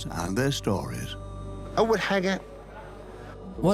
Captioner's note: Arabic dubbed in English